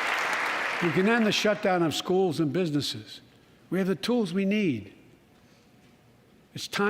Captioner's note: applause